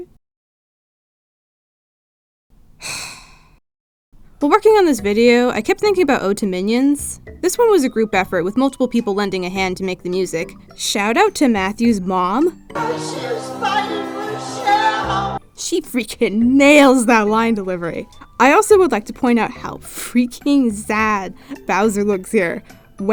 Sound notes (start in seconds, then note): 2.8 sighs